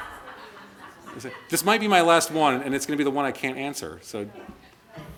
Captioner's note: laughter